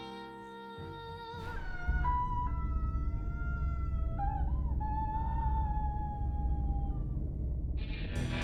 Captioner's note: blood-curdling scream; slow rock